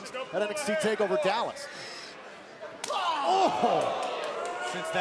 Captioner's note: crowd cheering